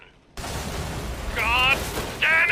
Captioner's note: crash!